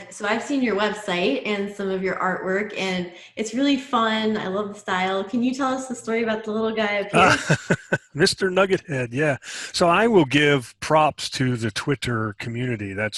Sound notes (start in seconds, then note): 7.0 laughs